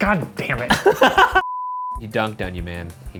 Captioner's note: laughs loudly